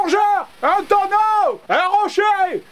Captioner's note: scream